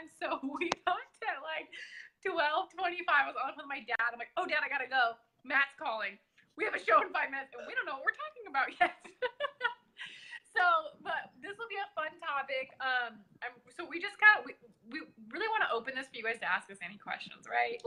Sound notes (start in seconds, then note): 0.2 chuckles; 8.8 laughs